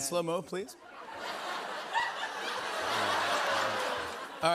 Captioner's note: laughter